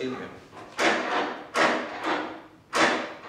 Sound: door handle

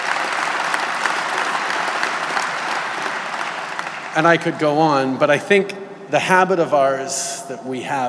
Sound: applause

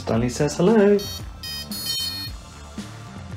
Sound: beeping

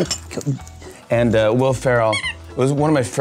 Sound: dog toy sqeaks

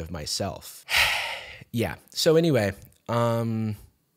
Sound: sighs

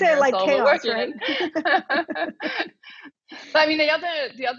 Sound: laughs

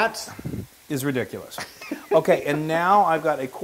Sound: laugh

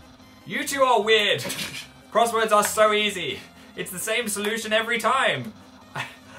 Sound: sniggers; laughs

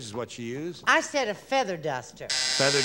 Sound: buzzer

